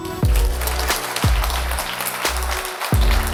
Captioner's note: applause; funky pop music